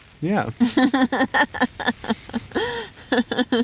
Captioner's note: laughing